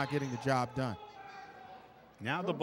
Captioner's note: yelling